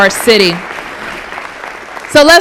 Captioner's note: applause